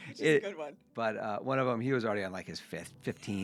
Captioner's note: laughing